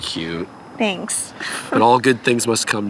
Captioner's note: laughs